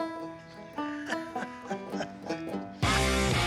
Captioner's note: laughs